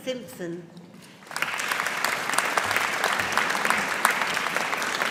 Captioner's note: audience applauding